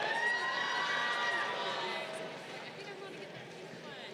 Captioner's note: crowd cheering